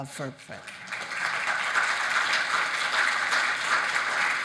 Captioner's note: audience applauding